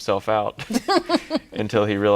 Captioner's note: laughs